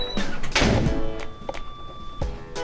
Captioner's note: door Slams Shut